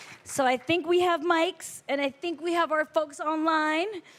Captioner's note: applause